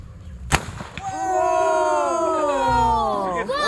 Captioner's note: loud bang